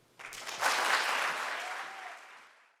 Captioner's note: audience applauding